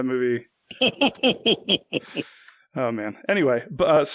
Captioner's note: laughs